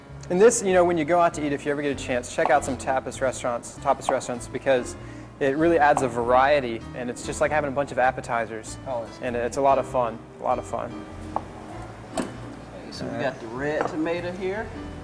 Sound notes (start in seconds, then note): 11.1 cut sound